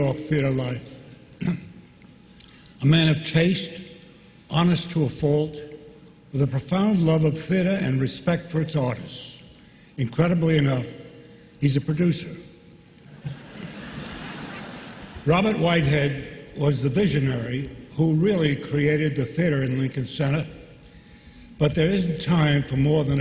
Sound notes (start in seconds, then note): 13.0 laughter